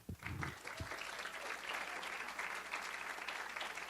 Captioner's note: audience applause